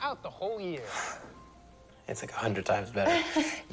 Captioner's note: laughs